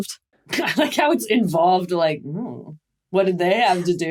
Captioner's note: laughs